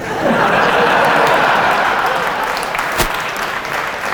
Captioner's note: applause and laughter